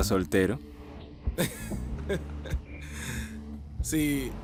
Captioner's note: risas